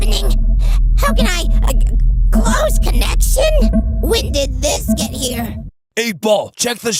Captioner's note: stutters